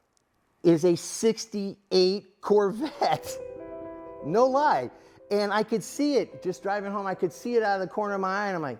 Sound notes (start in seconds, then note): 2.8 laughing